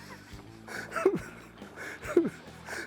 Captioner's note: chuckling